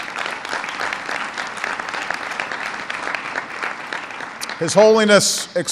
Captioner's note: applause